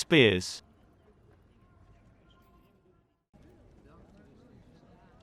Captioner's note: people chattering